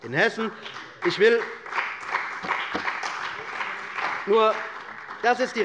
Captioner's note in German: Beifall bei der CDU und dem BÜNDNIS 90/DIE GRÜNEN